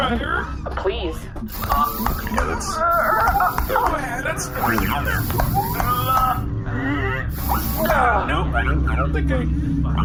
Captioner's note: grunting